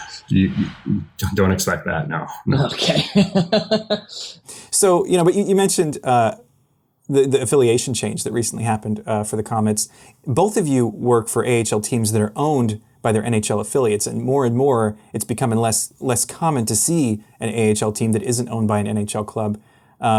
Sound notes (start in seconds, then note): 2.5 laughs; 2.5 chuckles